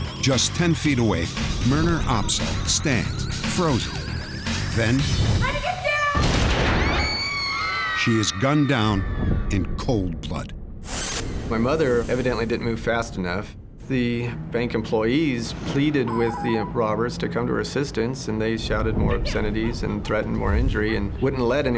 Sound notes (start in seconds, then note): 6.2 gunshot; 6.7 screaming